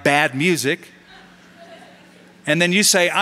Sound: laughter

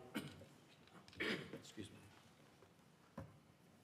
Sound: cough

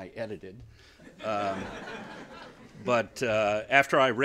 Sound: laughter

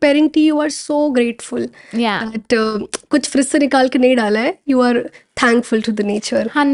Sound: speaking Hindia

